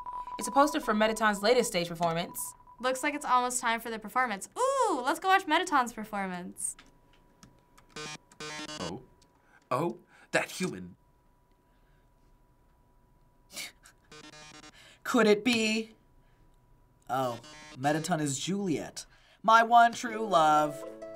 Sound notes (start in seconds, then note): 13.4 snickering